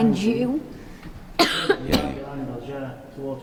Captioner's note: coughing